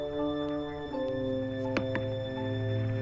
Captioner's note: knocks